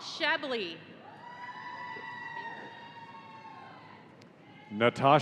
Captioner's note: audience cheering